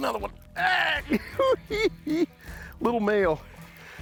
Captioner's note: chuckling